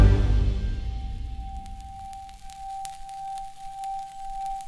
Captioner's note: flame crackling